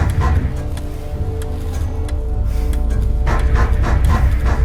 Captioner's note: lights buzzing; metronome clicking; gentle, menacing music; loud banging